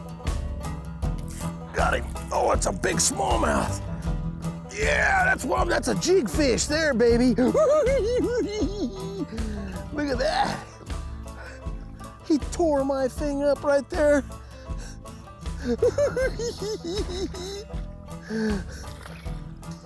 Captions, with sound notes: Got him. Oh, it's a big smallmouth. Yeah, that's what I'm-- that's a jig fish there, baby. [giggling] Look at that. He tore my thing up right there. [giggling]